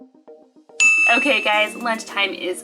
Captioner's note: ding